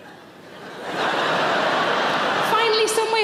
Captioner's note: audience laughs